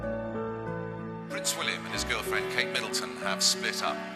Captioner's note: voiceover